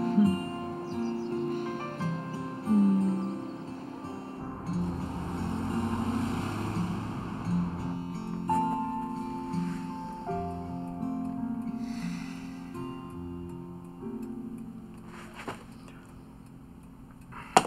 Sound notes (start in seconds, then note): 0.1 Nancy chuckles; 11.8 sighs